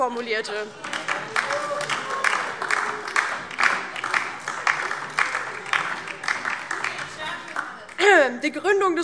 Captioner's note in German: Beifall DIE LINKE - Vereinzelt Heiterkeit